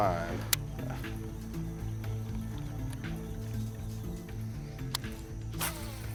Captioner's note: laughs